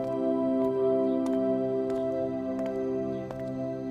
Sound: footsteps approaching

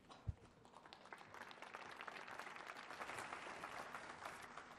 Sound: applause

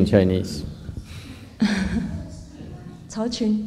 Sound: laughter

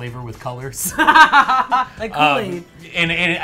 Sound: laughs

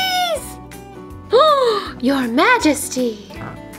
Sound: gasp

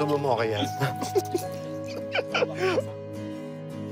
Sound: chuckling

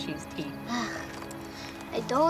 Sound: groans

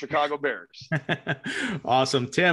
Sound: laughs

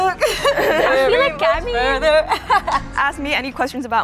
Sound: laughs

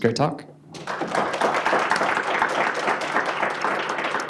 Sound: applause

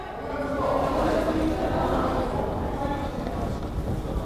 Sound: crowd chattering

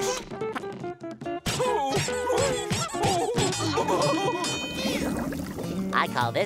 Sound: groaning, dinging

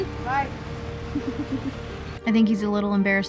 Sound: laughs

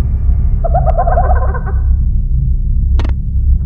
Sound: Majora's Mask Laughing

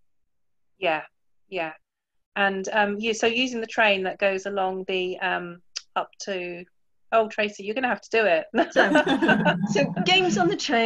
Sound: laughs

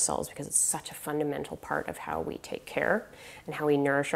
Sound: none

